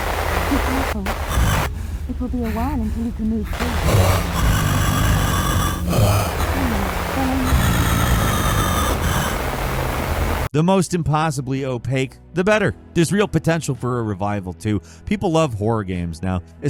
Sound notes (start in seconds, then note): 1.9 monster growling